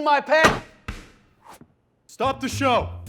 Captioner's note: bang